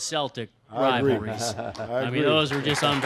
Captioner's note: laughing